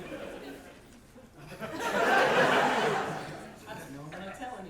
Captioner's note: audience laughter